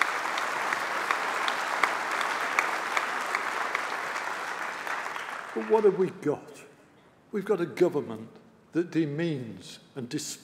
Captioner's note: applause